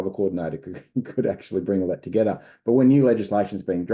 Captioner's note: chuckles